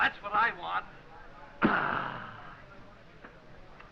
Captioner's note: exclaims